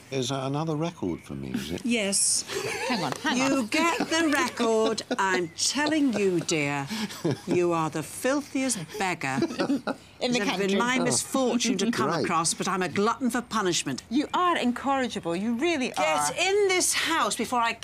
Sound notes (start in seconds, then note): 2.5 laughing